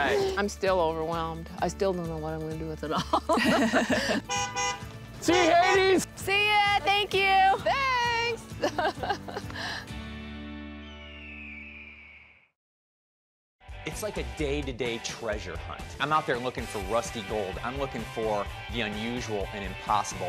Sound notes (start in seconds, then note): 3.0 laughing; 4.2 honking horn; 8.6 laughing; 10.0 bird screeching